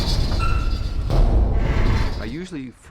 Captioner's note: thudding